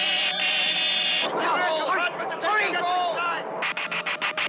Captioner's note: all yelling